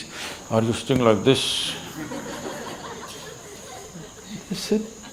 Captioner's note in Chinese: 笑聲